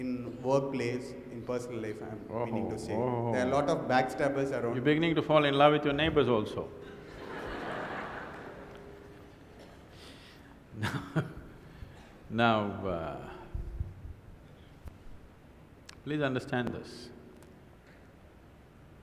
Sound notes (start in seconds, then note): 11.8 laughter